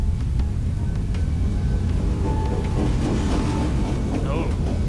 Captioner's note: trains rumbling